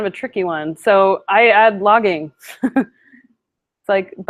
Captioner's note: laughing